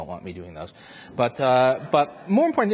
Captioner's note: audience laughs